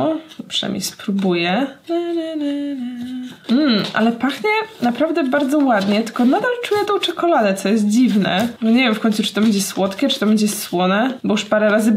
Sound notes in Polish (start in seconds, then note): 2.2 mmmm